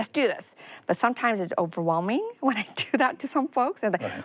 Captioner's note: chuckles